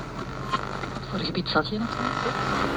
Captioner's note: static interference